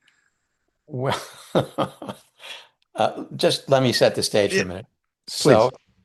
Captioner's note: laughs